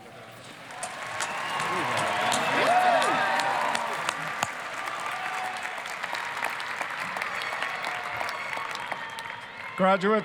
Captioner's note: applause, cheering